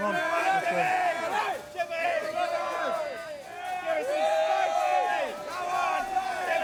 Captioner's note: yelling and jeering